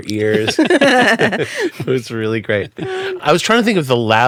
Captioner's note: laughing